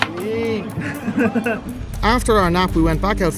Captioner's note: chuckles